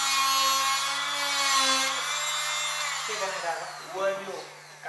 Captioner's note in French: bruit de fraiseuse; voix parlant népalais